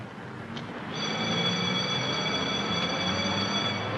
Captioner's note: school Bell Ringing